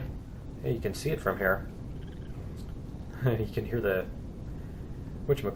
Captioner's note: plant monsters chirping; laughs